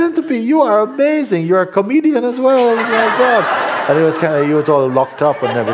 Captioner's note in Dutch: gelach